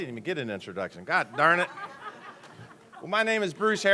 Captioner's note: laughter